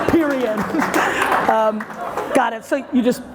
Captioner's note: audience laughter and applause